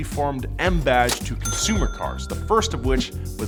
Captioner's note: cash register rings